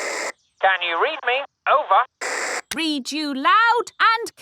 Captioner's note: walkie-talkie crackles